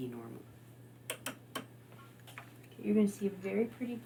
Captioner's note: knobs clicking